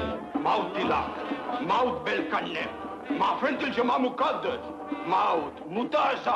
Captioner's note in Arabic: الكاهن يتكلم لغة أجنبية